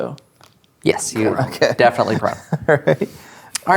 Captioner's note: laughing